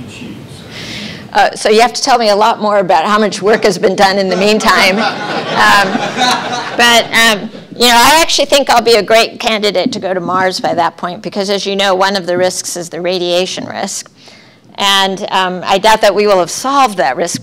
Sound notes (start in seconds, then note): 4.2 laughter